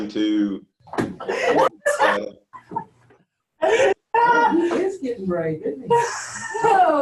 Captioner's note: loud chatting and laughter from offscreen